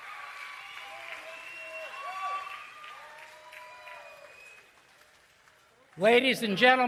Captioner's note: cheering and Applause